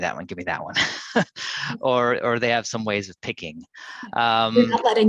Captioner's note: chuckles